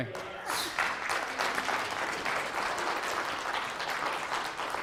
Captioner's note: audience clapping